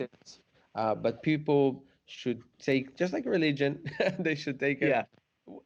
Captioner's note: chuckles